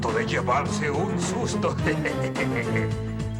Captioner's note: chuckles